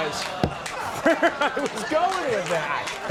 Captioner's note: Conan laughs